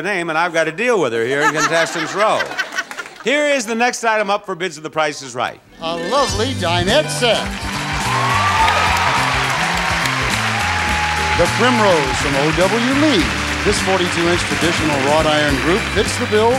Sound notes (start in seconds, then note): 7.8 audience applauding; 7.8 audience cheering